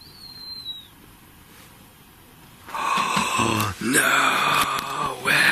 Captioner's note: whistling; gasping